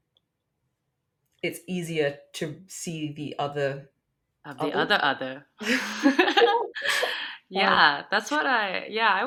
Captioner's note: both laughs